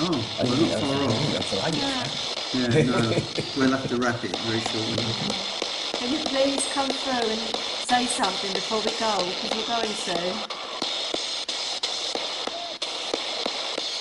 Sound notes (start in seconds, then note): 2.7 laughing; 6.3 pat